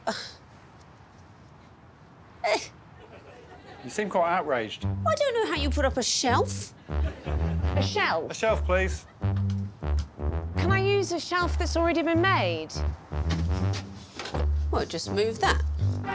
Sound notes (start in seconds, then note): 1.4 huffs; 3.0 audience chuckling; 6.7 tuba playing